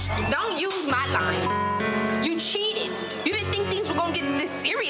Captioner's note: beep